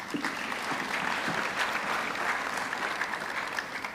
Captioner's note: audience clapping